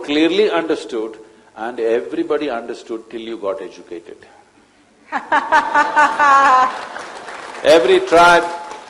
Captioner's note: laughter/Applause